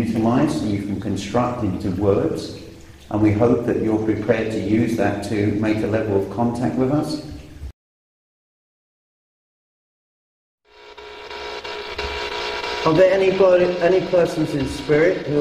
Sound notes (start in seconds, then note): 10.6 static buzzing